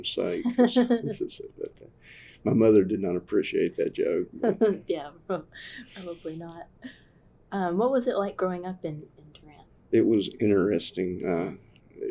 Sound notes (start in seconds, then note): 4.4 laughter